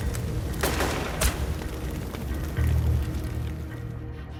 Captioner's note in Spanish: Disparos